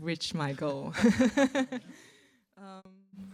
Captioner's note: laughter